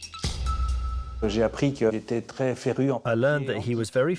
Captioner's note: non-english speech